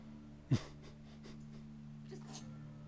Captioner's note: laughs